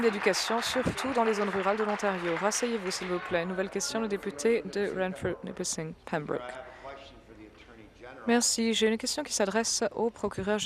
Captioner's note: applause